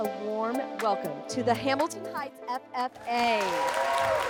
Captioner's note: competitors cheering